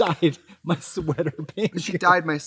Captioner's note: Trixie laughs; laughing